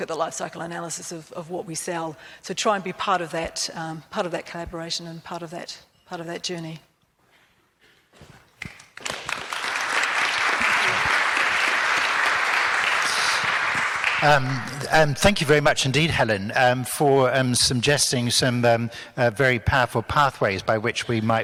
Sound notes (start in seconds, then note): 8.6 crowd applauds